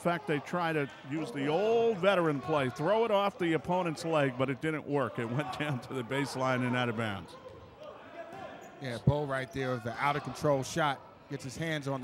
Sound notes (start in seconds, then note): 7.5 yelling